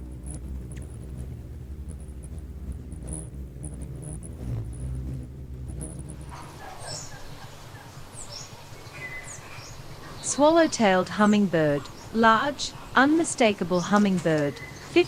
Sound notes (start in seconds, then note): 0.9 bird chirping; 0.9 bird wings flapping; 6.5 birds chirping